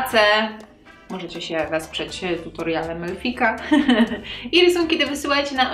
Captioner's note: laugh